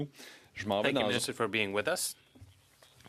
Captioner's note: speaking French